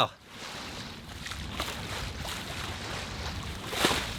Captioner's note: water sloshes